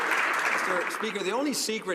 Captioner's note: some Applause